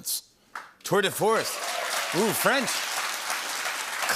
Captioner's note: cheering and applause